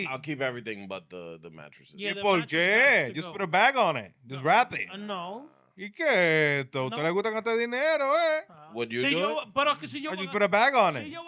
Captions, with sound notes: I'll keep everything but the mattresses. Yeah, the mattresses have to go. People just put a bag on it. Just wrap it. No. (Speaking In Foreign Language) I just put a bag on it.